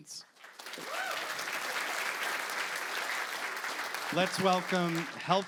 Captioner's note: applause